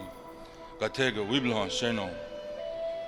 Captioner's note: speaking in a Ponca language